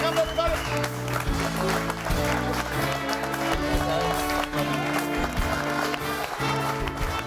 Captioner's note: audience applauding; bright music